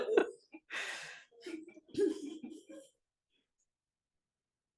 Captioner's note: laughter